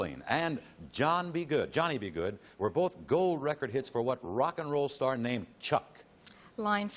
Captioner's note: none